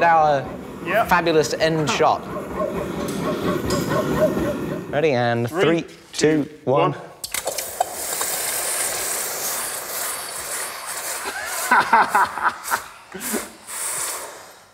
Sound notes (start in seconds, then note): 7.2 sizzling